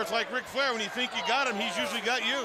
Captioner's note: crowd chatter